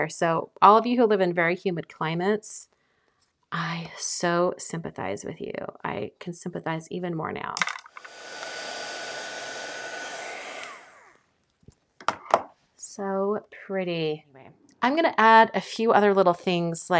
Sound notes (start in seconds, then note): 7.6 heat tool whirring